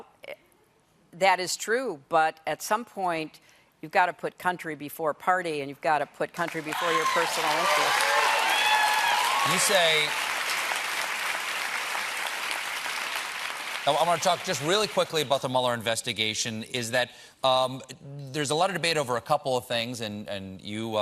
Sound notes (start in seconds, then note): 9.5 cheers and applause